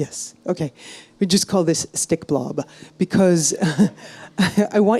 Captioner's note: chuckles